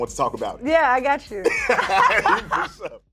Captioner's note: laughter